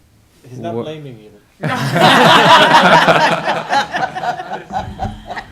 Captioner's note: laughter